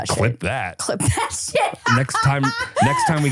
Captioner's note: laughs